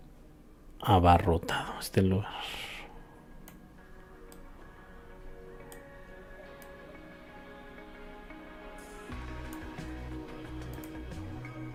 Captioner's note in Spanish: suspiro